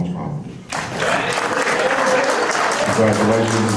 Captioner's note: resounding applause